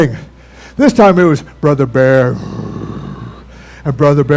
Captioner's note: growls